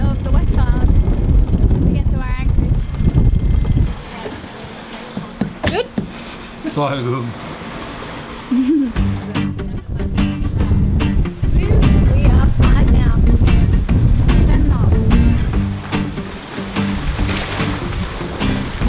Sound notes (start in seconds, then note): 8.5 giggling; 10.4 lively guitar music